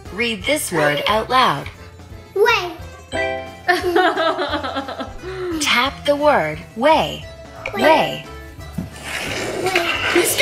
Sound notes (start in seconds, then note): 3.6 laughing; 9.0 skateboard screeching